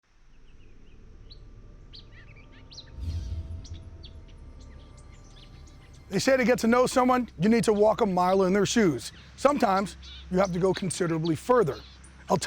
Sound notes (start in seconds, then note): 0.4 birds chirping